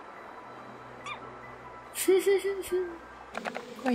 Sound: giggling

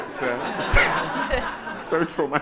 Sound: audience laughing

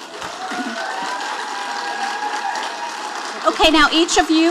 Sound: audience applauding

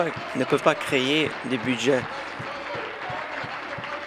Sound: some Applause

